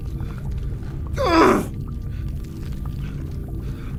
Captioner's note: крики